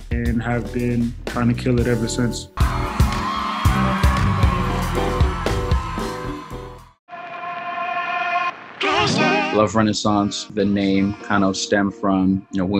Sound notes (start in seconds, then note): 2.6 crowd screaming